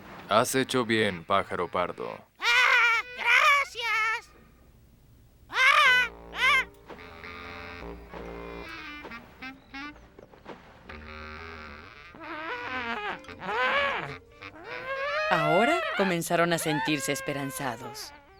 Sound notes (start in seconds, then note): 5.5 cooing; 12.4 trumpeting